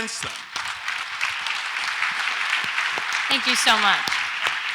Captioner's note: audience applauds